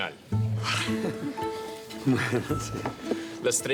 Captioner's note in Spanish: Risas